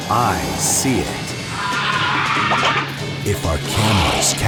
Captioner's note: shrieks